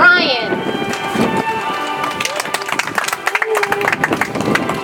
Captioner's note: audience applauds